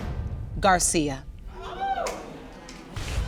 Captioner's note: audience exclaiming